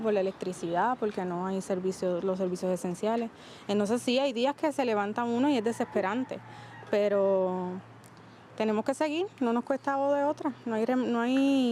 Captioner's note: speaking spanish